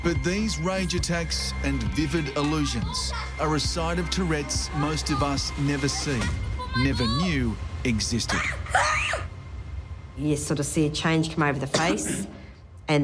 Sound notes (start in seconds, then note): 8.3 screaming